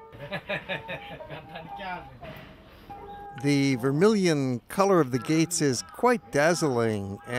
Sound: laughter

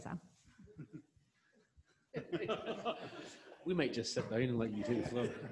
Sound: audience laughing

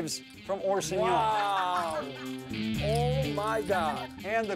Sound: laugh

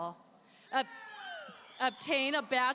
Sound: audience cheering

